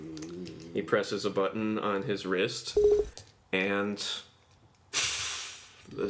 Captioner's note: hissing noises